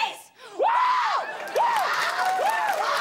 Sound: both cheer; audience claps and cheers

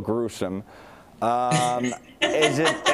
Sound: laughter

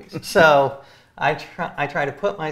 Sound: chuckles

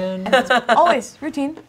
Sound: laughing

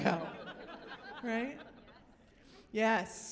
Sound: laughter

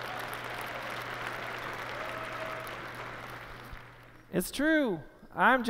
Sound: applause

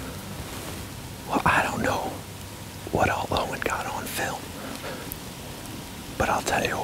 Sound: whispering

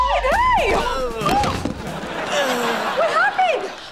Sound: groaning

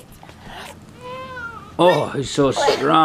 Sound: grunts

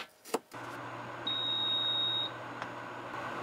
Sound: sound of cooking rice

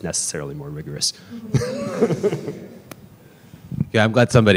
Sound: laughter

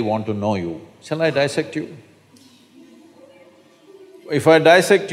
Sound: laughter

